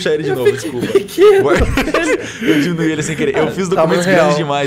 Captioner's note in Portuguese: Risos